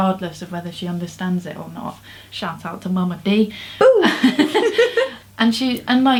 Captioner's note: laughs